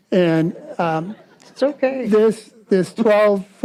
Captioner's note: audience laughs